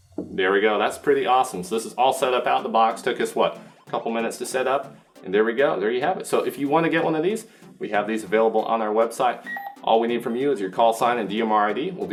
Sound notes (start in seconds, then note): 9.4 beep